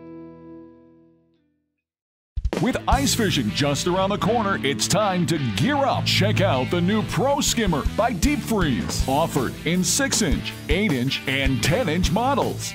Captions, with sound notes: - [Voiceover] With ice fishing just around the corner, It's time to gear up. Check out the new pro skimmer by Deep Freeze. Offered in six inch, eight inch and ten inch models.